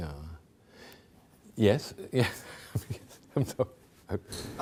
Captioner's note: chuckling